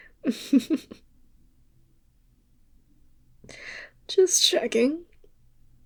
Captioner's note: laugh